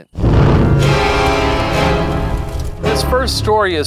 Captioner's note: flames flickering; flames whooshing